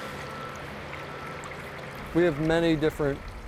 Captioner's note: water rushing continues; water lapping